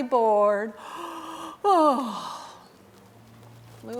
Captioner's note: yawning